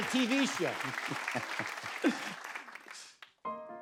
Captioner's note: laughs